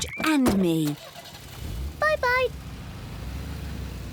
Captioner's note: engine starts